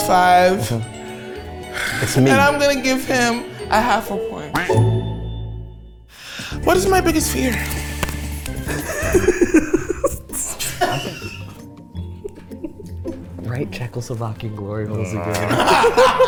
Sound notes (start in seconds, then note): 8.6 laughs; 15.2 everyone laughs